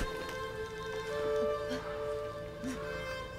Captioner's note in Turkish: Nefes sesi